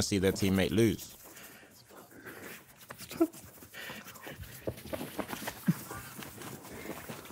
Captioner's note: fingers rustling clothes; group quietly snickering